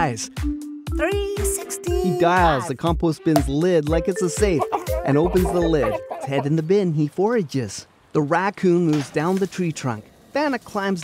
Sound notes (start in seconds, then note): 3.6 popping sound; 4.5 Banna foraging sounds